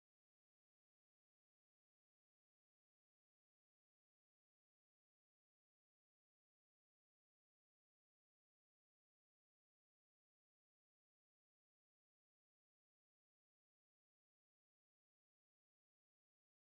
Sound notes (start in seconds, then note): none